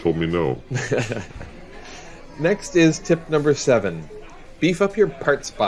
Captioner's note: laughs